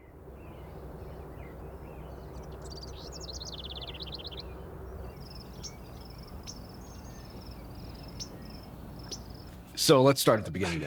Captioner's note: bird singing